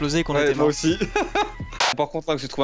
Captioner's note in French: rire